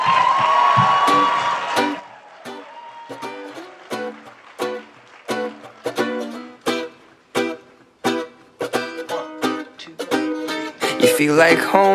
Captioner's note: applause